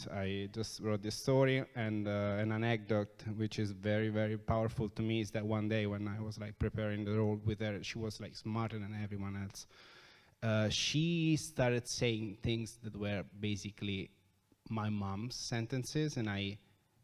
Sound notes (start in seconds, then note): none